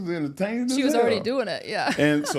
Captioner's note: laughs